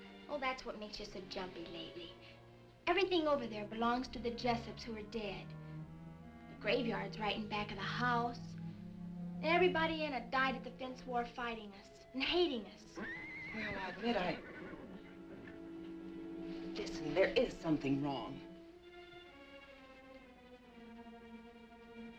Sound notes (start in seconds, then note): 12.9 horse neighing; 19.2 dramatic music